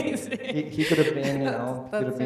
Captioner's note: laughs